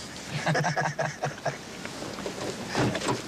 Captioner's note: both laugh